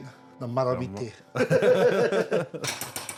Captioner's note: both laugh